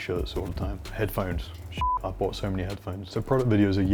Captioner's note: beep